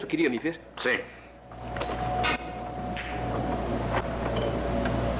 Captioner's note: pinball Game Dinging